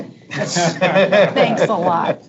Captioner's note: board members laughing